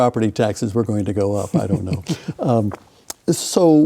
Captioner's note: chuckles